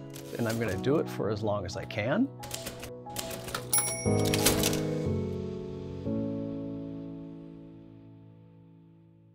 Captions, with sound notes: and I'm going to do it for as long as I can. (typerwriter clanking and chime)